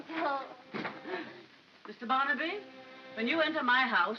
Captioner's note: door closes